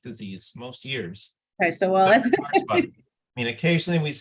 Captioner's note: chuckling